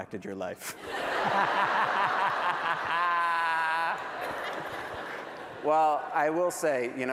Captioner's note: laughter